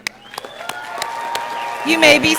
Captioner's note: audience applauding